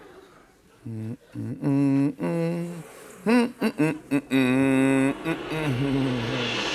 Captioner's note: laughter; humming